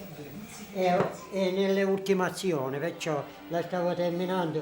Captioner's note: in Italian